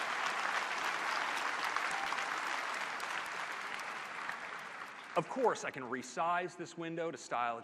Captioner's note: applause